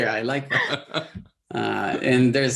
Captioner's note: both laughing